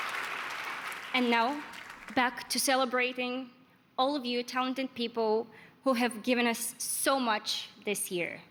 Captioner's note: applause